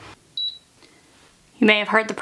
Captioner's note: press beeping